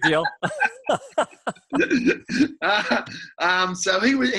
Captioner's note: both laughing